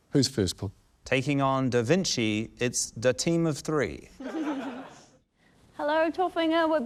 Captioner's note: laughter